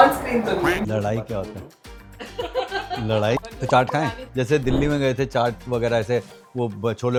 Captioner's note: laughter